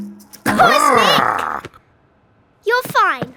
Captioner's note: Big Lizard cheers